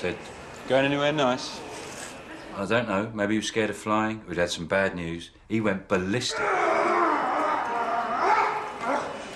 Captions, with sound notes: Going anywhere nice? Maybe he was scared of ﬂying, or he'd had some bad news, he went ballistic. (Prisoner roaring)